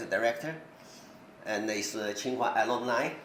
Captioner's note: speaks in foreign language